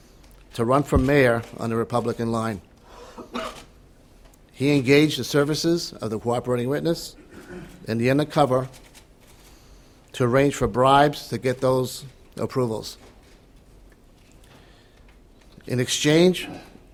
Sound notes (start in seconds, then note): 3.1 cough; 7.2 aside: clears throat